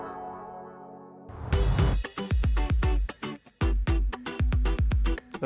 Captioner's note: whoosh